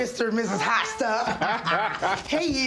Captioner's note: people laughing